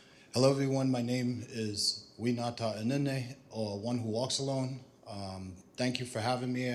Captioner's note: non-english speech